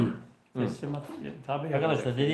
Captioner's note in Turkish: boğazını temizler